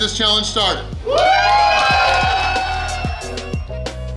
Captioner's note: cheering & Clapping